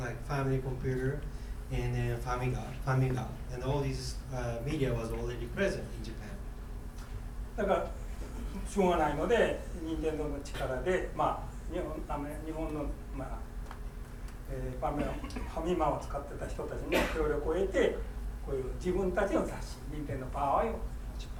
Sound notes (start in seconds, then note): 7.7 speaking in foreign language; 15.3 coughing